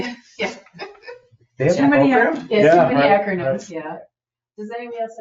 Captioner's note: laughs